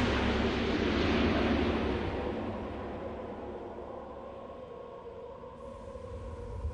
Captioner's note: sound of jet engine